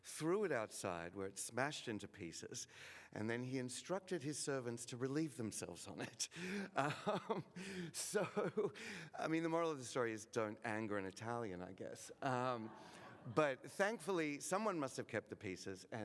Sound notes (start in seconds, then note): 7.3 laughs; 12.2 audience laughing